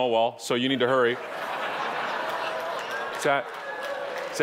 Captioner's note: audience laughing